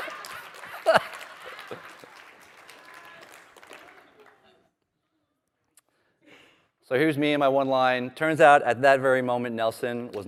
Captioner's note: laughter